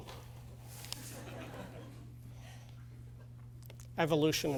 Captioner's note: laughter